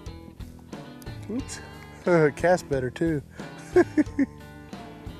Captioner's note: laughs